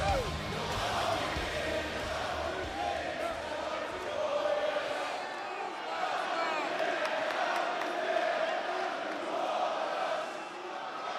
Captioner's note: crowd cheering